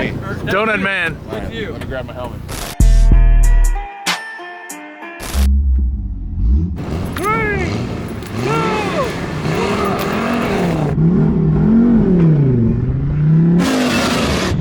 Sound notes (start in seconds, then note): 2.8 mellow music with slow beat; 10.6 engine revs up